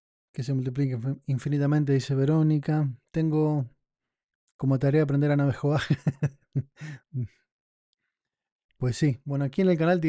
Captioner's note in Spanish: risas